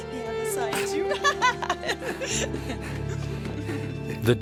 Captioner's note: laughing and screeching